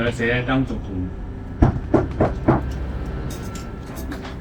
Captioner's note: knocking